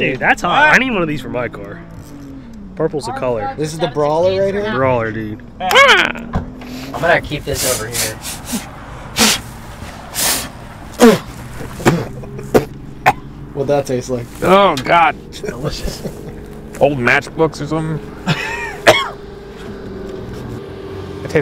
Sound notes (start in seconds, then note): 5.6 man shrieks; 9.3 blows; 10.9 spits; 18.3 coughs